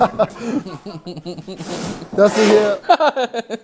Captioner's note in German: lacht